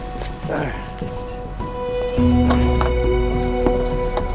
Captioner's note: grunting